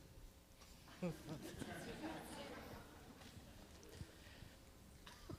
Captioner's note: audience laughing